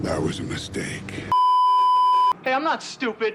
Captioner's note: beeeeeeeeeeeep